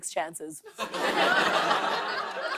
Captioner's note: laughter